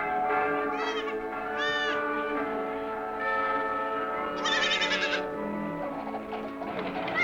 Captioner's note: crowd and animal sounds